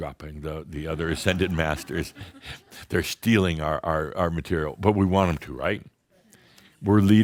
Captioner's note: some chuckles